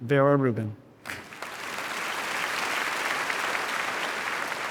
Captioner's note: audience applauding